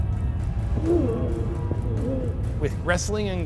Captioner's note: fighting grunts